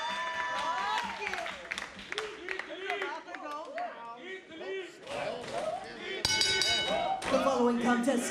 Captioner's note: crowd chatter; bell ringing